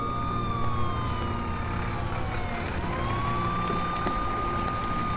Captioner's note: gentle music; fire engine siren blaring; gentle music